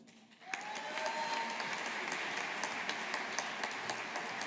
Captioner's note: audience applauding